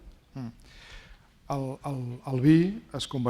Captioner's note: speaking spanish